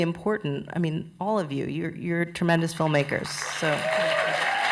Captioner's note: applause